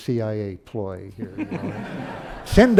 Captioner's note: laughter